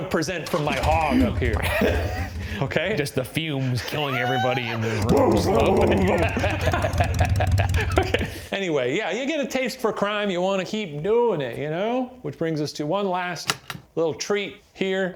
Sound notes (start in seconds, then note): 4.9 vocalizing motorcycle engine revving; 6.7 laughing